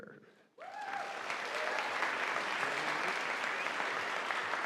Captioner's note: audience applauding